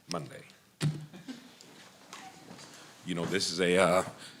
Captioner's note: laughter